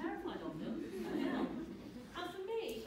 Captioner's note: audience laughing